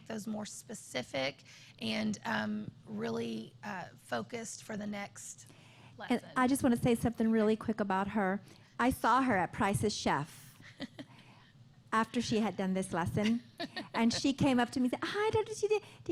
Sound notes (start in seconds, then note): 10.6 laughter